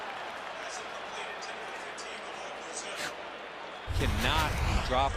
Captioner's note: pa announcement